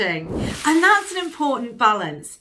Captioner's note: whooshing sound